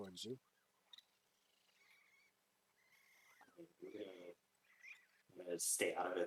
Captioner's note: more racoon chittering; racoon chittering